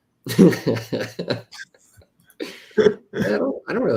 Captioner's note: laughter